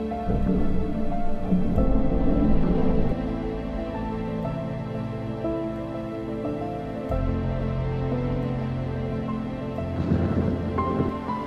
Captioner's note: suspenseful music; water bubbling